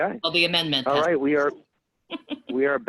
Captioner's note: giggles